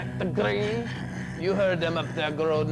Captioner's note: Groden cackles